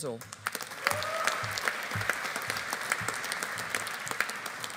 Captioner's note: audience applauding